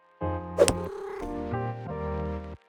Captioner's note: cat purrs